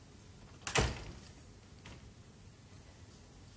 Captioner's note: door closes